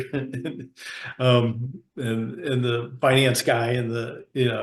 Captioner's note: laughs